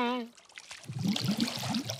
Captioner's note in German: Plätschern